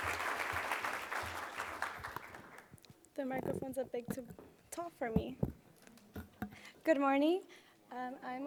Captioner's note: applause